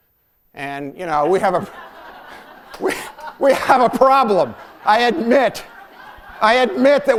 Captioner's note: laughter